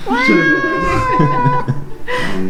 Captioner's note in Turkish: Gülüşmeler